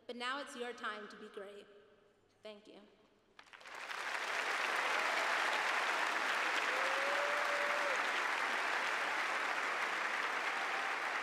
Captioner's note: cheers and applause